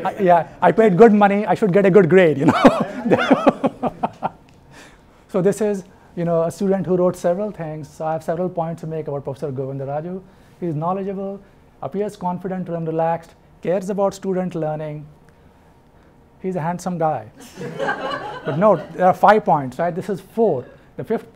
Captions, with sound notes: I paid good money, I should get a good grade. (laughs) So this is a student who wrote several things, I have several points to make about Professor Govindaraju: he is knowledgeable, appears confident and relaxed, cares about student learning, he's a handsome guy. But note, there are five points, this is four.